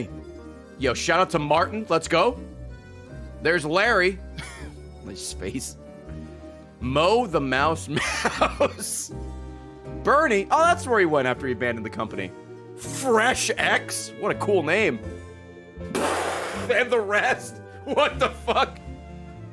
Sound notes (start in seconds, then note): 4.6 laughs